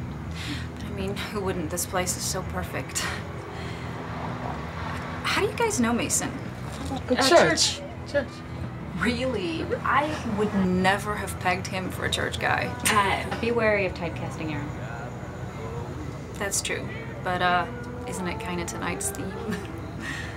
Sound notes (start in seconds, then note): 2.7 sighs; 12.5 chuckles